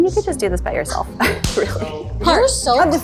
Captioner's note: claps